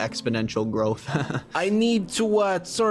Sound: laughs

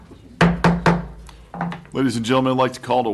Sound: gavel

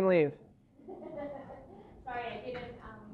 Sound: laughter

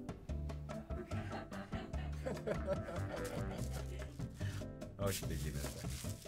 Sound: laughing

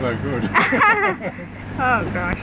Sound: laughs

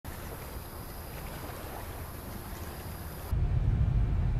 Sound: crickets, water flowing

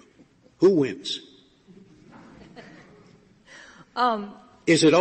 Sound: laughter

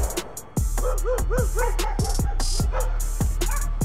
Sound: loud gunfire; dogs bark loudly

